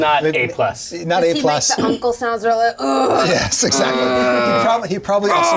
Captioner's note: groans dramatically